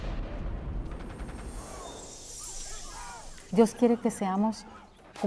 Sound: speaking in foreign language

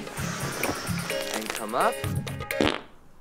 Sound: back cracking; farts

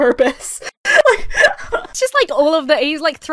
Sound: laughs

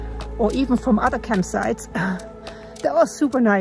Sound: laughs

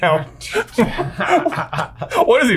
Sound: laughs; chuckles

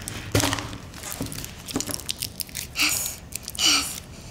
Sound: foil crinkling; egg popping

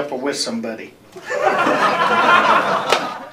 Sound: laughter

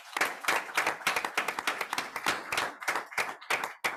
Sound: group applauds

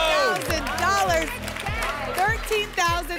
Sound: applause and cheering

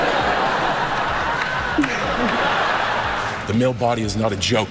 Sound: laughter

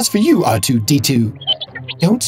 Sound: R2-D2 noises

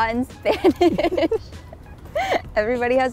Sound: laughs

